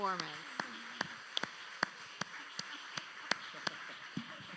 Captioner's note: audience applauding